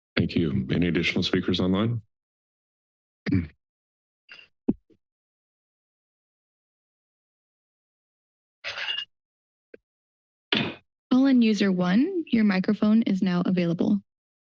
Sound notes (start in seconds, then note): 3.7 silence